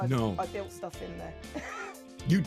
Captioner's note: laughs